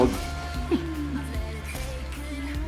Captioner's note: Kelly laughs